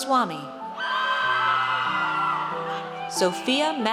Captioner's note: audience cheers